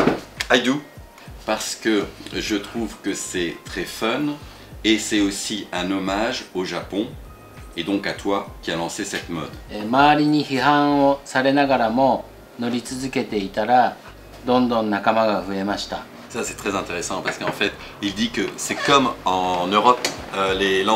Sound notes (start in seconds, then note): 10.2 Speaking Japanese